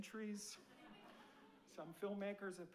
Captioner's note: audience laughs